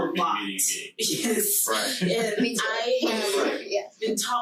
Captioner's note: group chattering